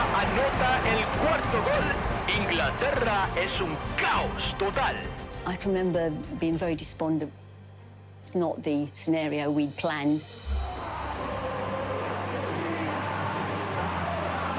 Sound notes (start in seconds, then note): 5.3 in English; 10.4 crowd chants